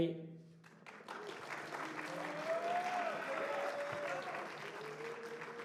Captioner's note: cheering